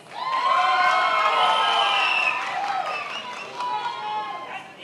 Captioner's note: many applauding